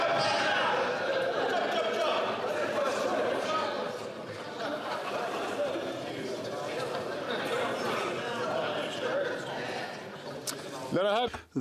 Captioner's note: chatter